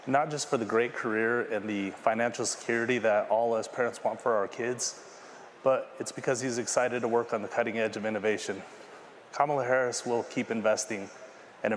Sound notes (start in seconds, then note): none